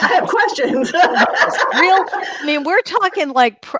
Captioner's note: laughs